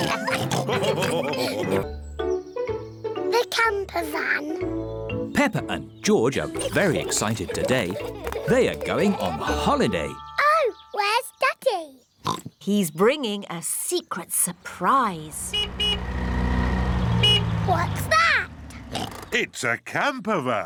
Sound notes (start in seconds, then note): 0.0 all continue laughing; 12.2 oinks; 15.3 horn honks; 18.9 oinks